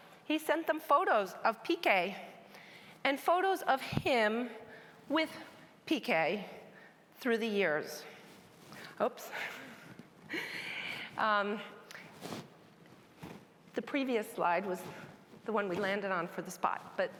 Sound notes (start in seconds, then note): 10.2 laughs